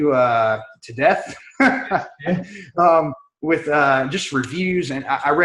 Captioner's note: laughing